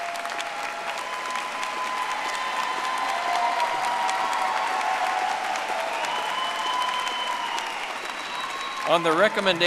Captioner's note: audience applauding